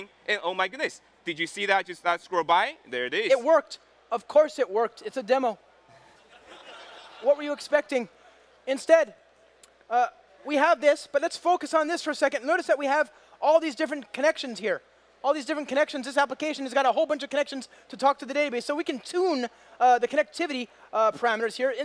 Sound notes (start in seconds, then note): 5.9 crowd laughs